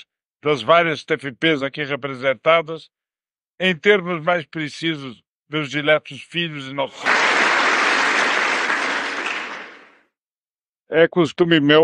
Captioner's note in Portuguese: aplausos